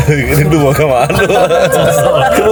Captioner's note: laughs